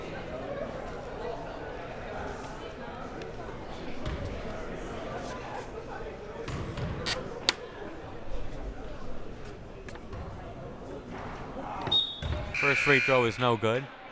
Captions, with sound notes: (crowd murmuring) (whistle blaring) First free throw is no good.